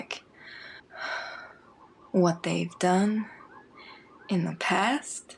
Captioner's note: sighs